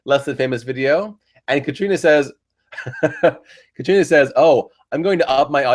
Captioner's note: laughs